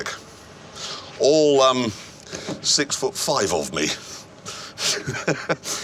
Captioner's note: laughs